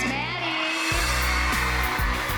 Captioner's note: cheering